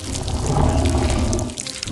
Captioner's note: Squelch